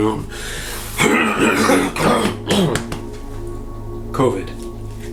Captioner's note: coughs vigorously